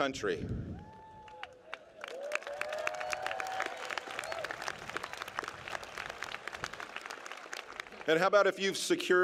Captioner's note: applause